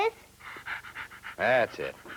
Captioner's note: panting